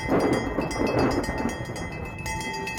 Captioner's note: bell clanging; thunder crashes